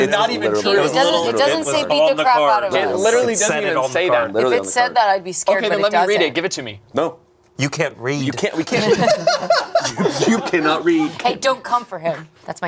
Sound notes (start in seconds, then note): 8.5 laughing